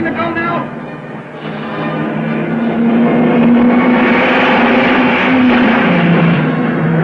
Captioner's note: dramatic music; cars revving